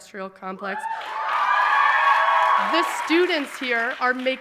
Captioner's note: audience applauding and cheering